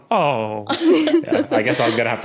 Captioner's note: laugh